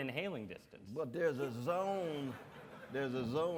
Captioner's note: audience laughs